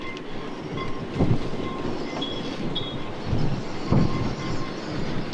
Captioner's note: halyards banging on masts